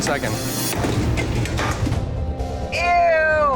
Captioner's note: items clattering